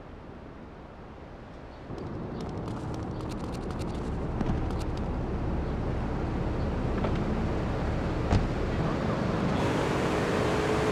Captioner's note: plane engine roaring